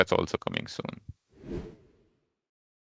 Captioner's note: air whooshing